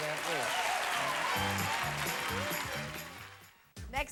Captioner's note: audience applauding